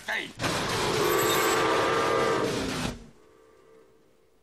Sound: train whistle

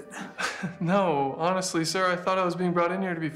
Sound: laughs

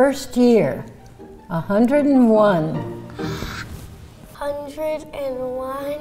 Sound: gasps

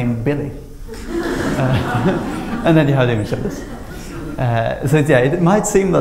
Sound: laughter

